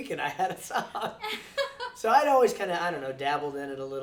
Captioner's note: laughs